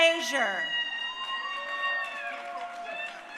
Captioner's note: crowd cheering